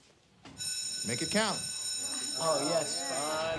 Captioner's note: bell rings; students chattering